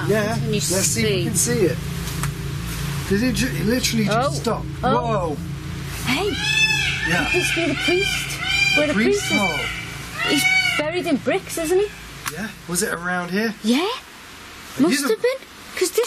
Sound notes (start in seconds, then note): 6.0 peacocks squawking